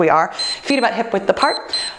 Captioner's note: timer beeps